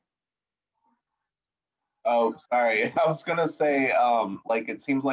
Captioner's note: laughter